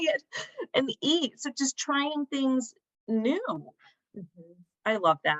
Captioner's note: laughter